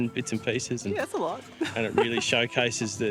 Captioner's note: laughs